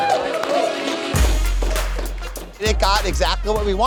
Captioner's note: crowd cheering; upbeat music